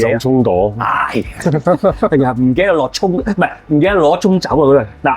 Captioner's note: hahaha